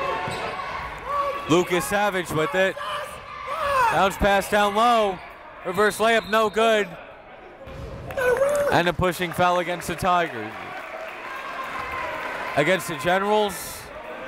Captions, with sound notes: Lucas Savage with it. Bounce pass down low. Reverse layup no good. (whistle) And a pushing foul against the Tigers. Against the Generals.